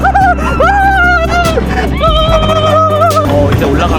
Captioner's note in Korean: 갑자기 도파민 폭발해 목소리 변조